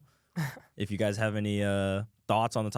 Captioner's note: laughs